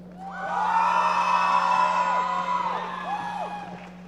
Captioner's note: loud shouting